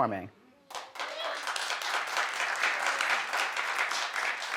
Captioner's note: audience applauds